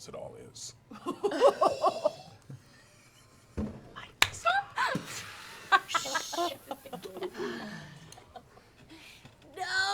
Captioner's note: surprised laughter